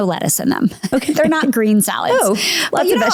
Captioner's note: chuckles